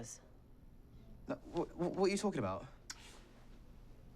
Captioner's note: stammers